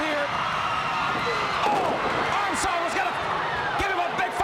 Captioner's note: crowd cheering